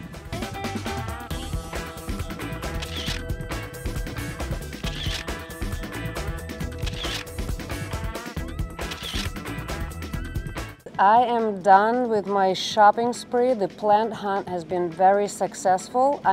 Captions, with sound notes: (upbeat music) (camera shutter whirring) (camera shutter whirring) (camera shutter whirring) (camera shutter whirring) I am done with my shopping spree. The plant hunt has been very successful.